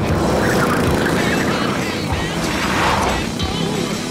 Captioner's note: tires squeal